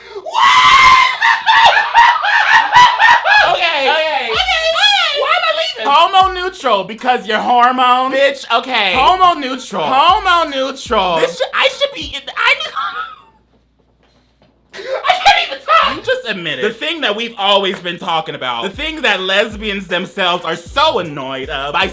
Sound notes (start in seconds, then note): 0.7 laughs; 12.1 stammering